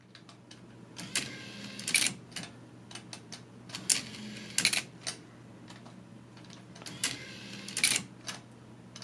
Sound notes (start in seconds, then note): 1.4 the sounds consist of a whirring as it moves and a few sharp clicks at each end